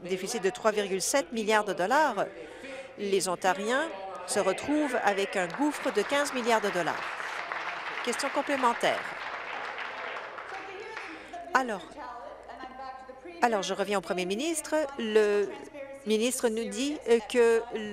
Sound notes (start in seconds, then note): 7.9 applause